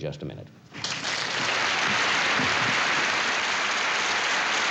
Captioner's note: applause